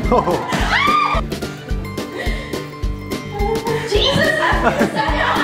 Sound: yelling

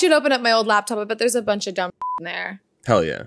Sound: beep

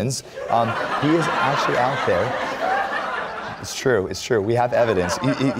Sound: laughter

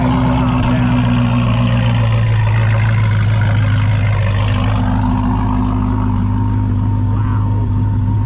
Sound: car engine running

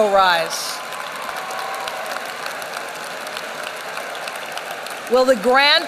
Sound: applause

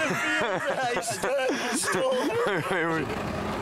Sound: laughs

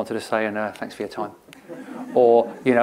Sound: laughter

